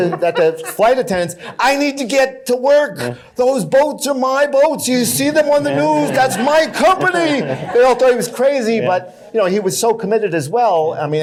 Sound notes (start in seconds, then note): 5.4 laughter